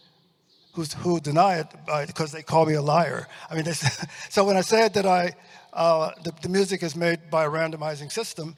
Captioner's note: chuckles